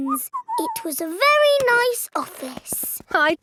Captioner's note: whistles